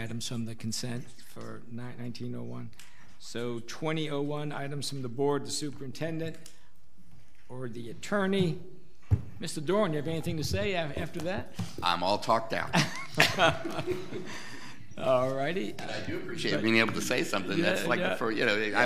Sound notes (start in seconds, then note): 12.6 all laughing